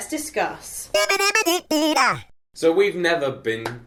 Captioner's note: playful vocalizing